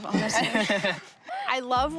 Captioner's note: laughs